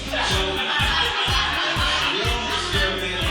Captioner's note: audience laughing